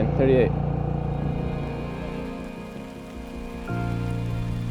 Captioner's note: boat rumbling